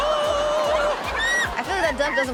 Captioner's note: person screams; audience laughs